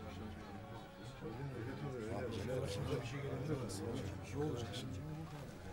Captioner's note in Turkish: Kalabalık konuşma sesleri